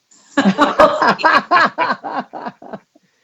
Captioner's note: laughs